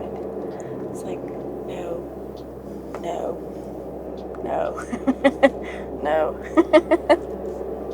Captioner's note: laughter